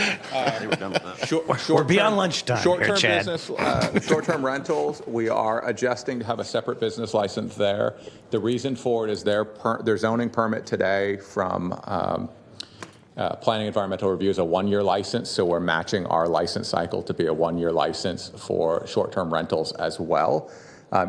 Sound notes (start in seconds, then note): 0.0 laughter; 3.5 laughter